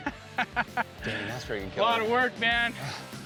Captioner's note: chuckling